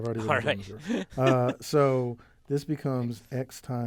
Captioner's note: laugh